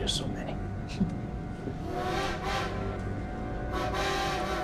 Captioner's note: train whistles